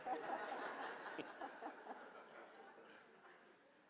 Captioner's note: audience laughing